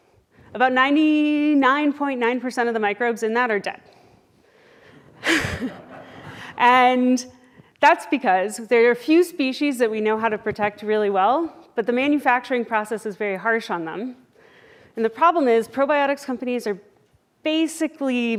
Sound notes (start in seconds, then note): 5.2 laughs